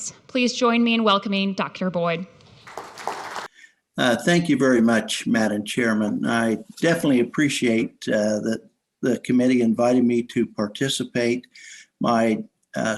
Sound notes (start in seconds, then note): 2.5 audience applauds